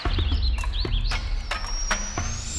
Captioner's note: percussion music; birds chirping; owl whistles